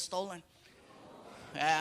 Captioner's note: audience groaning